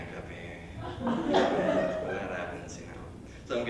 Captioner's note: laughter